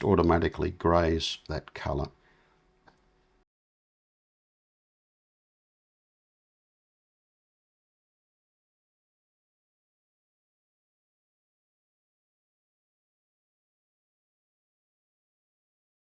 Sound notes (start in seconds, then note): 4.2 silence